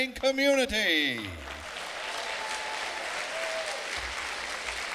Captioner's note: clapping